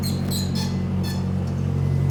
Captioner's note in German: Quitschend